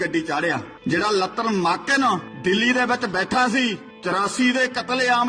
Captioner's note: speaking in Punjabi